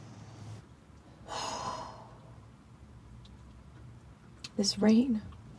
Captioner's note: Mary exhaling